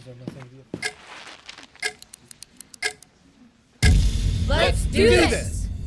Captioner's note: clock ticks; pen clicks